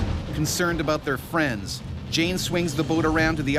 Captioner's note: voiceover